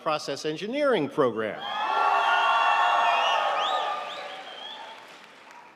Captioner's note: audience cheering